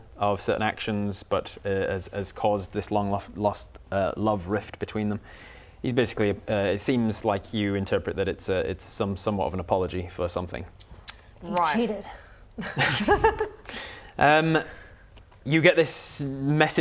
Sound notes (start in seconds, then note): 12.6 laughs